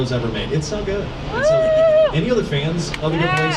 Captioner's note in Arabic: هتاف الركاب